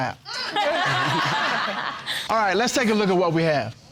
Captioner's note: all laughing